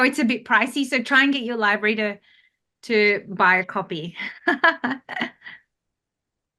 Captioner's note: chuckles